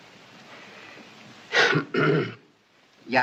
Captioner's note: clearing Throat